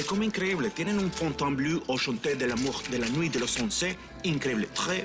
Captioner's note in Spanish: Habla en francés